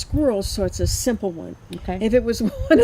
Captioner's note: chuckles